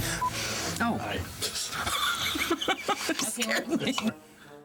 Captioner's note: chuckles